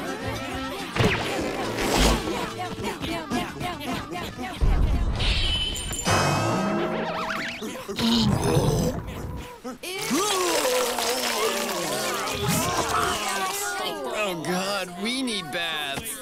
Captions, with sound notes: (vomiting) Ewww, gross Oh, god, we need baths.